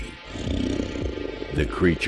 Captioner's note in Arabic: الشيطان يزأر